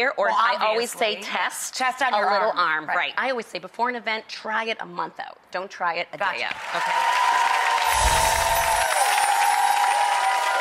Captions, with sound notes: Well obviously. Or I always say test. Test on your arm. Test, a little arm, right. I always say before an event, try it a month out, don't try it a day out. (audience cheering) (chimes tinkling)